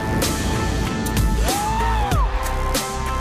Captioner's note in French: il crie